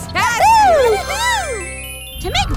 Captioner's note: transition tones